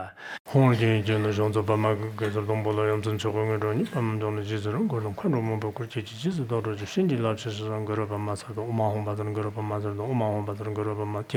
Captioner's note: giving oral transmission in Tibetan